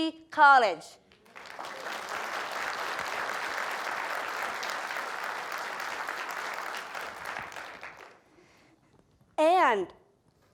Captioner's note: applause